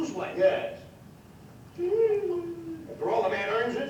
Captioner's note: groans